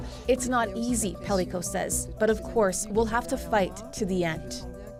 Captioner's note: speaking French